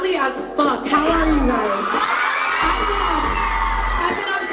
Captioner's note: fans scream